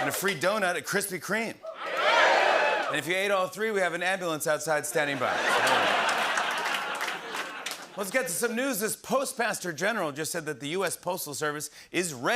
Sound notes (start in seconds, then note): 0.0 cheers; 1.6 cheers; 5.0 laughter and applause